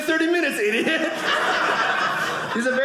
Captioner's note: audience laughing